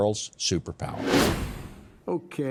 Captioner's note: wind whooshing